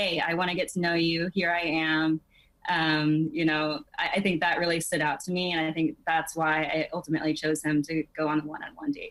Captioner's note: none